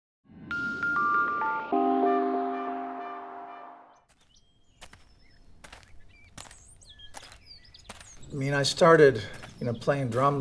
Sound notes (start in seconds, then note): 0.6 light music; 3.7 birds chirping; 5.6 footsteps thudding